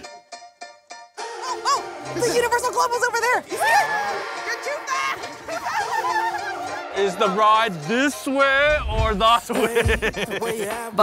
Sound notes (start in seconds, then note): 0.1 upbeat music; 5.5 family giggling; 9.4 laughs